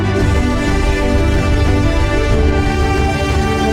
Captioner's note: deep engine rumbling